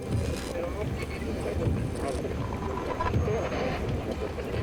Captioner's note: static crackles